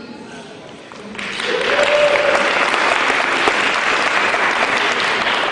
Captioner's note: cheering